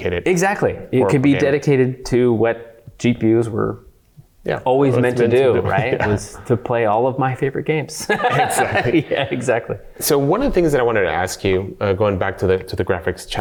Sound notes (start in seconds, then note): 8.0 laughs